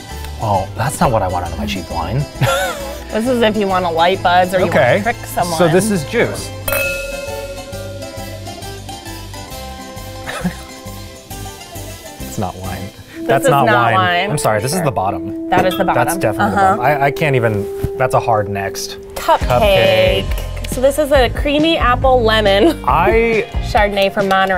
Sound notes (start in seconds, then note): 2.4 laughs; 6.6 glasses clinking; 7.2 bright Italian music; 10.2 laughs